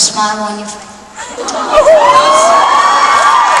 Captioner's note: crowd "aw!" and cheering